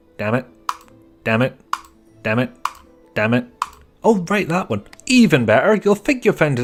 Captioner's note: click